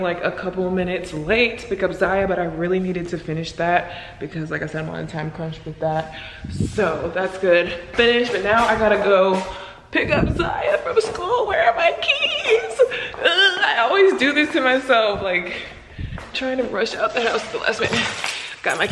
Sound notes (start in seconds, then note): 13.2 groans